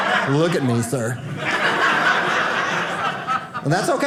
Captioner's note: audience laughing